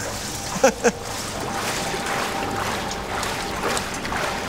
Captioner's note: machine whirring, rhythmic splashing